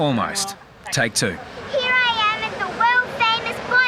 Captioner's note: cheering